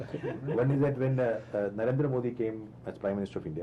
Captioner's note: laughter